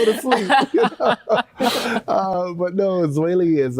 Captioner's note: everyone chuckles